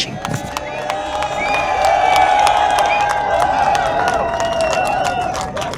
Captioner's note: attendees cheering and applauding